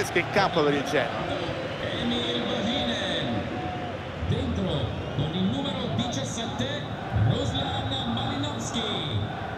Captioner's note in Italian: Applauso